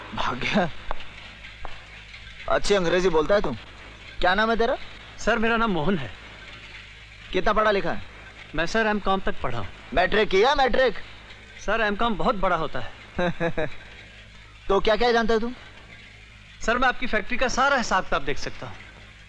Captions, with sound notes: He ran away. You speak good english. What is your name? - Mohan sir. How much educated are you? - I've done my masters. Have you done 10th grade? - Sir, masters is a bigger degree. (Laughs) So what job can you do? I can handle your entire factory accounts.